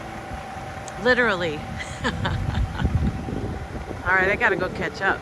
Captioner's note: laughs